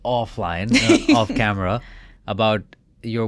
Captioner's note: chuckling